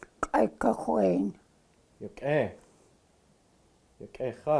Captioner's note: speaking Tlingit